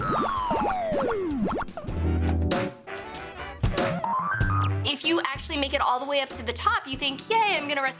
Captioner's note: arcade sounds